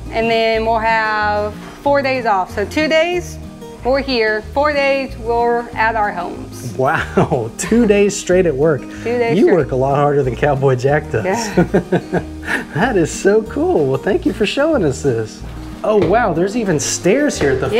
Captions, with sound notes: and then we'll have four days off. So two days, we're here. Four days, we're at our homes. - Wow! Two days straight at work. - Two days straight. - You work a lot harder than Cowboy Jack does. - Yeah. (laughs) - That is so cool. Well, thank you for showing us this. Oh wow! There's even stairs here at the fire station.